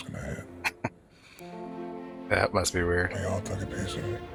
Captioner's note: chuckling